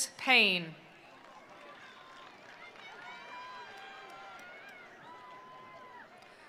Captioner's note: attendees cheering; attendees applauding